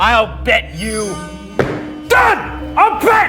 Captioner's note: foot stomps